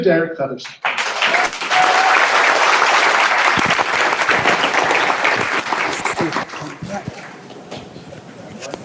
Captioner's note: applause